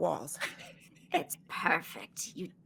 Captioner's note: laughing